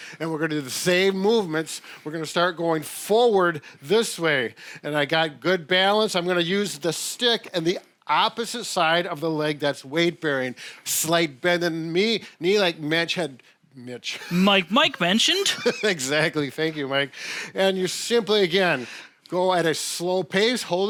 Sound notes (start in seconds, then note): 14.1 laughs